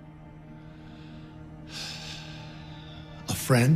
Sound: sighs

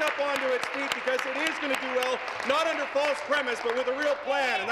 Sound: applause

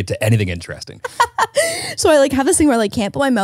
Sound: laughs

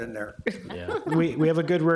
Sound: all laughing

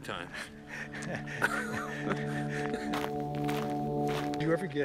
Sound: Kevin and Jeff laughing

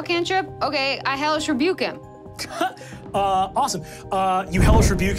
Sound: chuckles

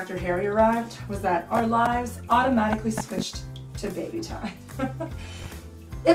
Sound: laughs

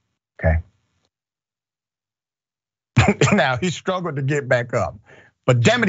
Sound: laugh

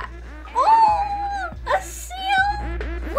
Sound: cooing

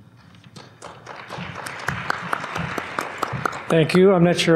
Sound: applause

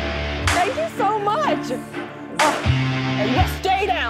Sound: sighs

